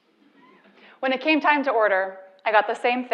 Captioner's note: laugh